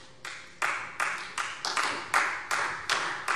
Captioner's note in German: Beifall Freie Demokraten